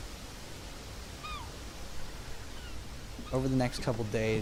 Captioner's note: birds squawk